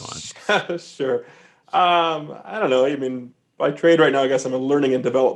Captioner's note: chuckling